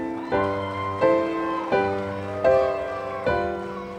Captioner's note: audience cheering